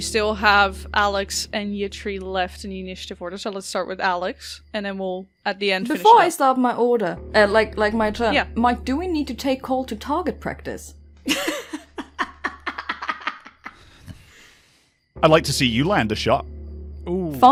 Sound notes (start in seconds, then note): 14.0 laughter